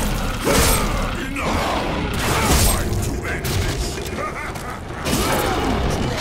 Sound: laughs

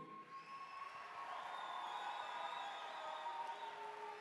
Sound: applause

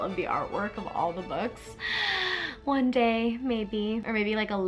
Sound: gasps

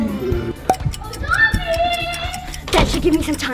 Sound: clock ticking

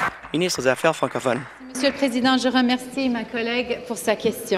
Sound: applause

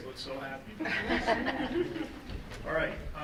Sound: laughter

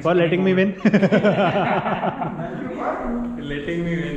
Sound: laughing

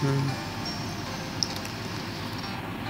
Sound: dry lips sound

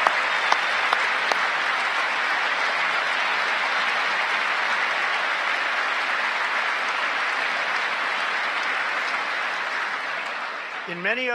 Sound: applause

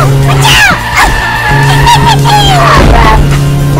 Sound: laughs

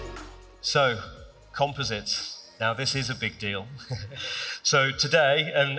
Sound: laughs

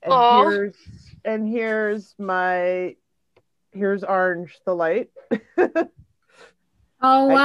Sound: laughs

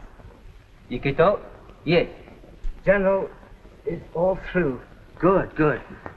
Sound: speaking japanese

